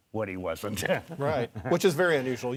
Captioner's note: laughing